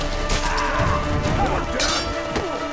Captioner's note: cries out